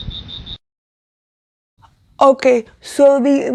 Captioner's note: crickets